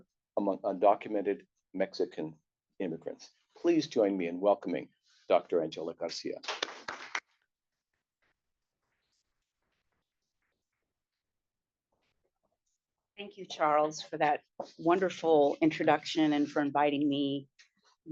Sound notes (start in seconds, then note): 6.3 applause